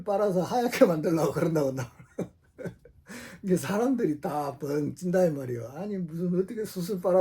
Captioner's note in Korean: 웃음